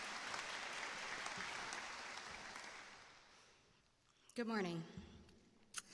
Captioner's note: applause